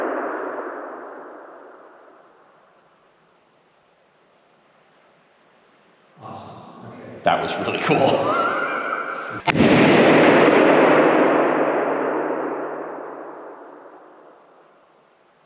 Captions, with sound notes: - Awesome, okay. - That was really cool. (laughs) (balloon banging)